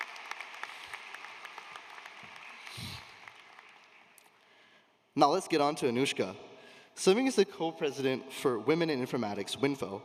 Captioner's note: applause